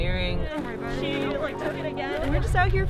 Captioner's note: chatter